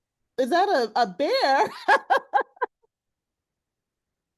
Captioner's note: laughs